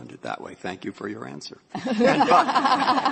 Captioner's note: laughter